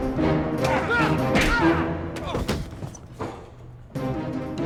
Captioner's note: both grunting